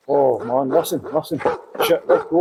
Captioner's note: dogs Barking